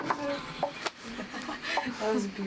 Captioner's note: laughing